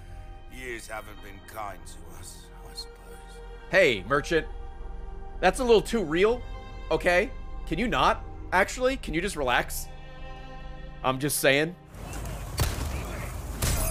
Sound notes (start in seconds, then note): none